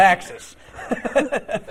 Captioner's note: laughter